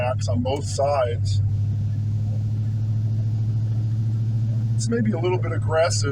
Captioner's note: exhaust rumbling